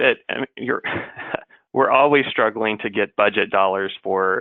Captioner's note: laughs